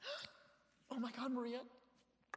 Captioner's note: gasps